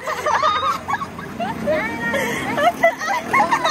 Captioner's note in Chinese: 之超魔性笑聲